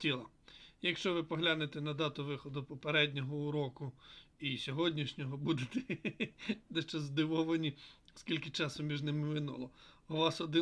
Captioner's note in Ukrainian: сміх